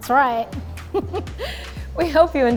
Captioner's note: host laughs